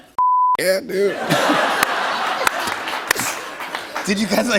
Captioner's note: laughter